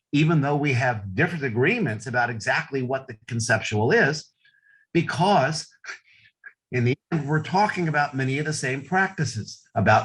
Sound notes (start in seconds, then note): none